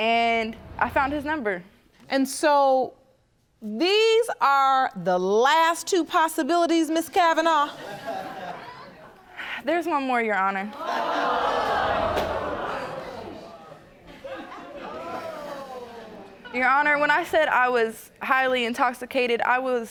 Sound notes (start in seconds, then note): 10.8 audience gasping